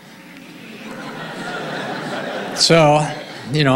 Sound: audience laughing

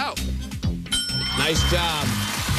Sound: ding

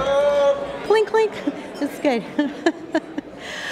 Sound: laughs

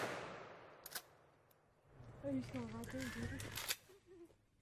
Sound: gunshots

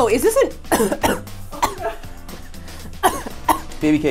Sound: coughs

